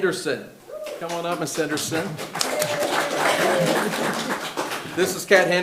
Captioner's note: audience applauding